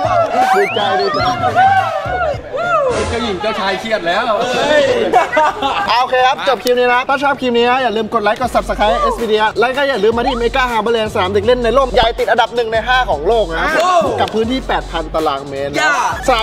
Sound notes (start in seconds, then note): 4.3 laughs; 4.3 mocking